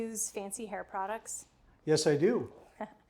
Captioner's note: chuckles